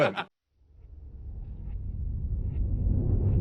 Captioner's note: laughing